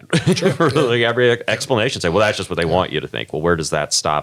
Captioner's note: laugh